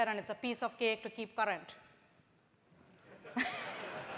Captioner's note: laughter